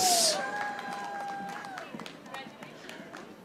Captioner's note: audience applauding